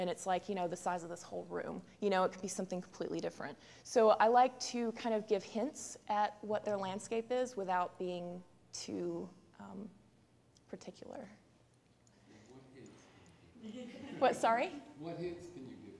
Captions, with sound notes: you know, the size of this whole room? You know, it could be something completely different. So I like to kind of give hints at what their landscape is without being too particular. [background talk] [laughter] What, sorry? >> What hints can you give?